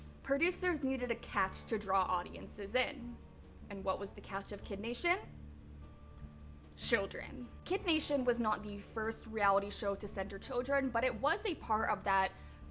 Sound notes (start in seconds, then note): none